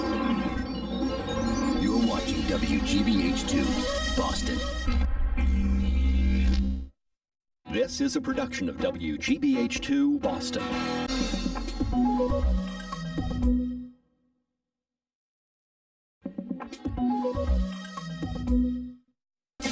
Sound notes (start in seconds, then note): 5.4 neon electricity zapping; 11.2 fun-packed music plays; 16.3 fun-packed music playing